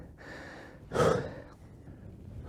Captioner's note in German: schweres Atmen